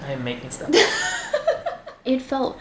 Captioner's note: giggles